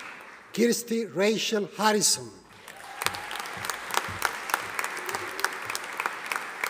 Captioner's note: audience applauding